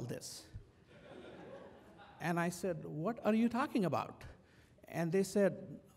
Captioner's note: laugh